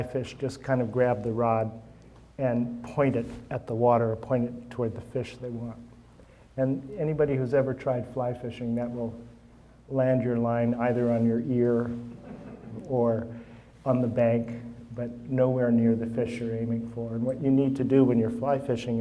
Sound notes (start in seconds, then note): 12.1 audience chuckling